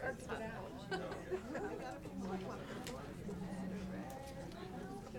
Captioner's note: people chattering